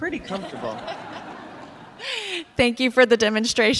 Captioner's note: audience laughing